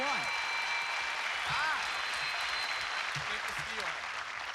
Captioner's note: cheers and applause